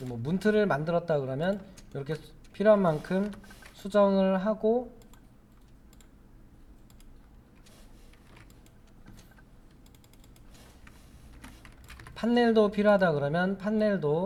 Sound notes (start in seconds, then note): 6.3 silence